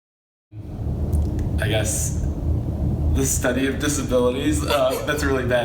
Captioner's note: laughs